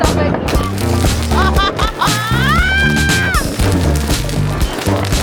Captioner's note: laugh; scream